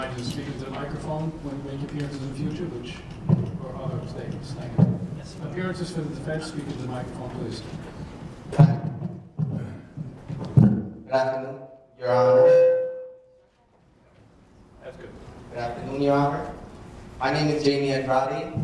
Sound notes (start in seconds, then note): 12.1 microphone feedback screech